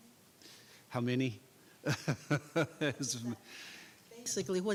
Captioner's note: laughing